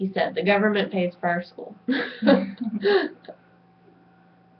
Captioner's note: laughs